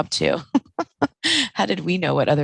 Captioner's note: laughing